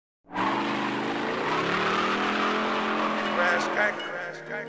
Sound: car revving

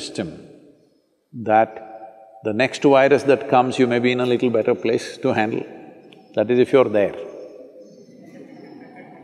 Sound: laughter

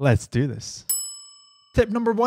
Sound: ding

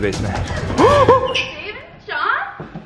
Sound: shocked gasp

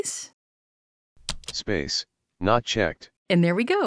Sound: voiceover

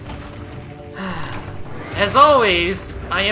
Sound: sigh

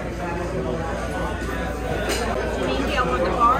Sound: patrons chattering

